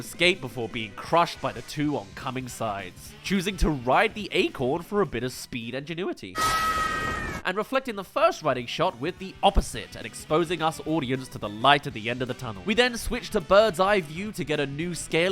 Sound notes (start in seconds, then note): 6.3 screams